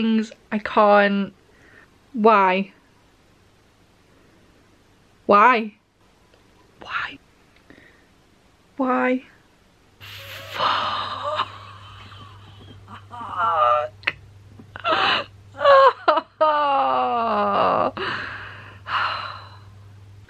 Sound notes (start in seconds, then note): 10.1 laughs in pain